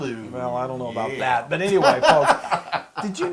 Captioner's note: laugh